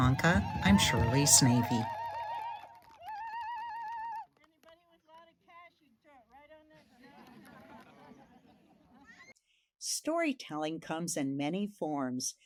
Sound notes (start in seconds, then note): 0.0 attendees whooping; 6.8 attendees laughing